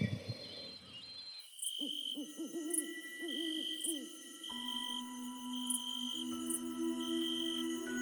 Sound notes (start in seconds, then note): 1.8 owl hooting; 1.9 insects chirping; 4.9 serene music